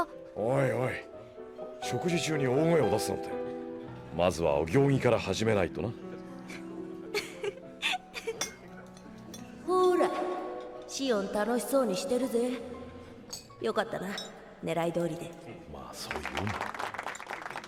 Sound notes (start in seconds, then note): 7.1 laughter